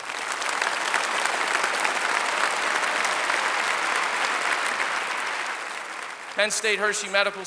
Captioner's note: applause